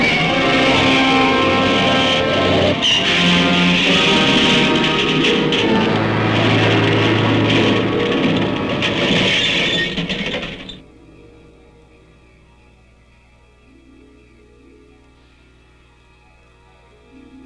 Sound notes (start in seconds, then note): 0.1 tires screeching; 3.1 car crashing; 11.0 hazy orchestral music